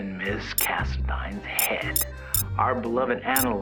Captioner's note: comments start beeping in